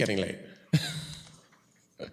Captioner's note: chuckles